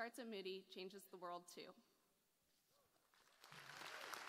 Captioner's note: applause